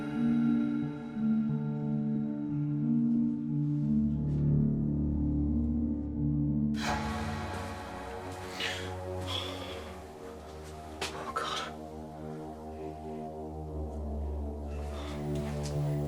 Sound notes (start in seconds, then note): 7.1 ominous music; 9.5 heavy breathing